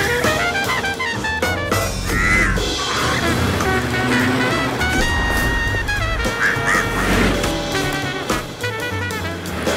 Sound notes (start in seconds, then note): 0.1 tires screech; 1.9 crow squawks